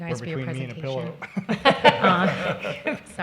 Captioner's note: everyone laughing